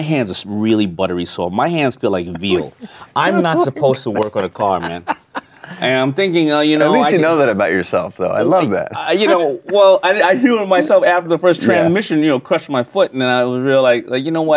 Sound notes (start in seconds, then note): 5.6 laughing